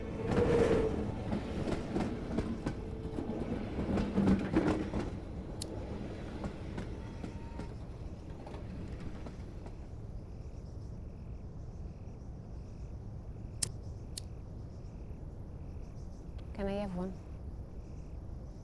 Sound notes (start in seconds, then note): 0.2 train rumbling; 5.1 lighter clicking; 7.9 cicadas chirping; 13.4 lighter clicking